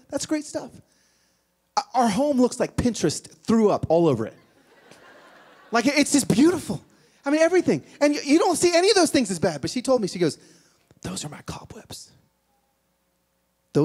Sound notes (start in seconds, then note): 4.5 laughter